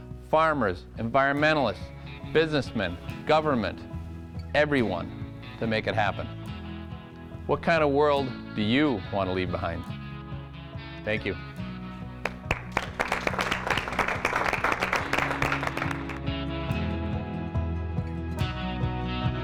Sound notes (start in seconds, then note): 12.2 audience applause; 16.5 country music